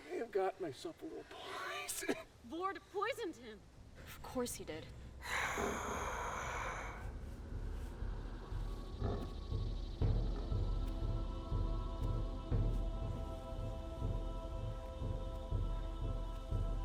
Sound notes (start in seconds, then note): 5.4 Sorcerer Beast snarls; 5.4 ominous music